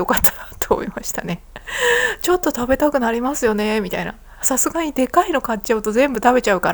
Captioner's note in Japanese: 息をのむ音